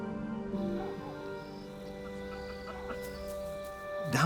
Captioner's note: insects chirping